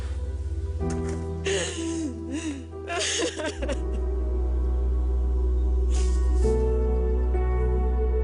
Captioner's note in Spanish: Sollozos